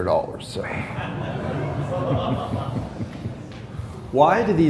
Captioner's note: laughter